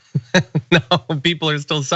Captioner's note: laugh